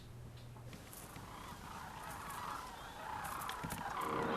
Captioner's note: birds calling